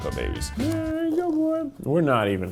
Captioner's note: humming